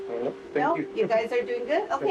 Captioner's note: laughs